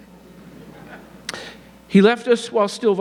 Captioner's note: audience laughing